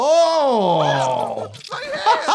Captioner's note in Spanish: riendo; el cliente grita